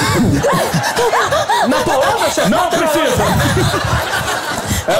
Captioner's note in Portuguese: engasga